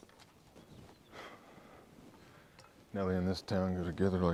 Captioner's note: sighs